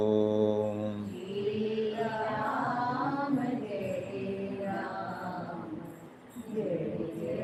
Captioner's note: audience chanting